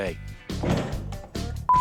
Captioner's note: clank